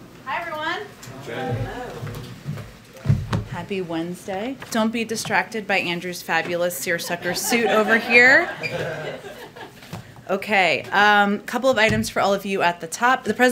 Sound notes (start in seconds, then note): 9.0 laughter